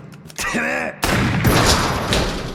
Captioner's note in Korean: 총성